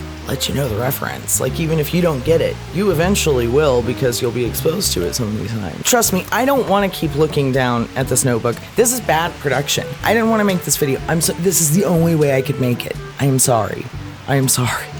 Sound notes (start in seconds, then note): none